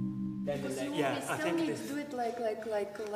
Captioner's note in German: Sie sprechen auf Englisch